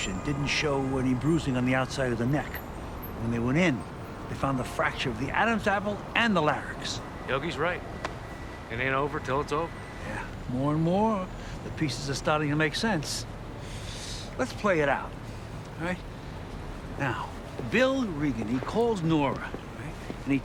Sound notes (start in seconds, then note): none